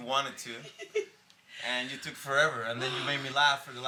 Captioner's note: Lele giggling